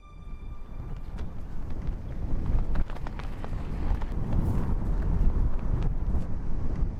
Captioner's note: wind blowing; flags flapping